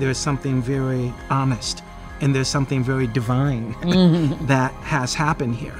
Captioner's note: nods and chuckles